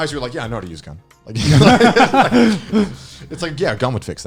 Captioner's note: laughing